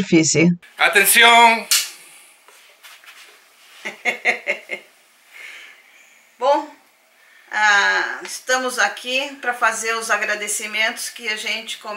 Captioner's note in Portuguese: risos